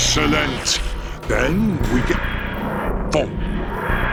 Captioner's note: TARDIS Noises